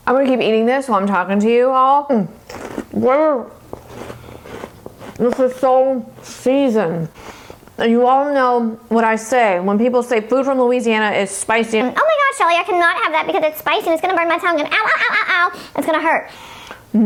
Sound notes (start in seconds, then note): 2.4 pork rinds crunching